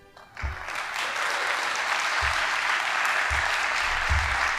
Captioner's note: audience applauding